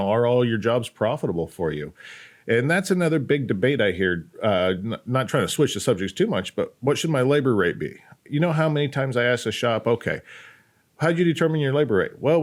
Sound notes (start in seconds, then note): none